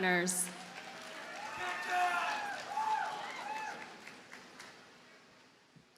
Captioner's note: audience cheers and applauds